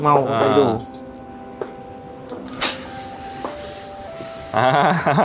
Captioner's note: smoking sound